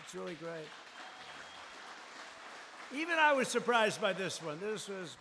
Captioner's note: applause